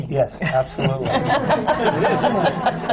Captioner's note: laughter